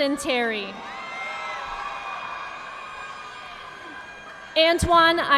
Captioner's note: audience applauding